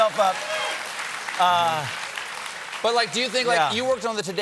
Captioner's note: cheers and applause